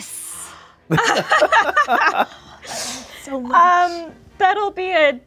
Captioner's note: group laughing